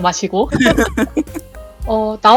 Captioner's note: laugh